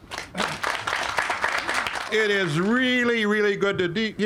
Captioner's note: all applauding